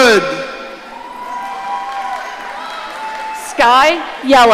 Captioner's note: audience cheering